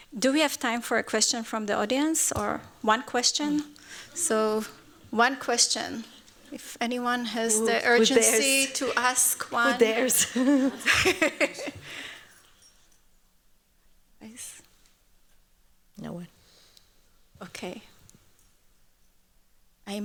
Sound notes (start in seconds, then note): 11.0 laughs